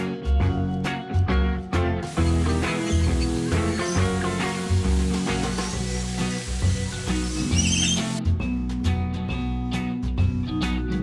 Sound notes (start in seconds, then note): 2.1 birds squawk; 3.1 upbeat band music